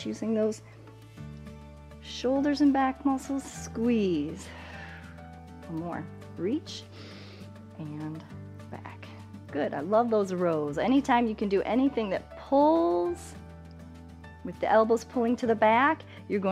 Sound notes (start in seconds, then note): 4.4 exhales